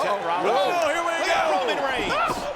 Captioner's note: commentators exclaim